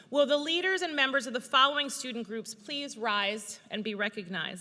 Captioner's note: none